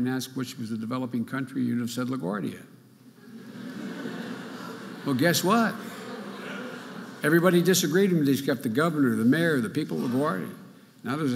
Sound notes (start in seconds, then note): 3.2 audience laughing